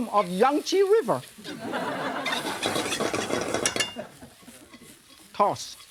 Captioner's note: audience laughing